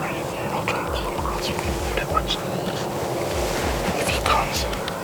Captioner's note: whispering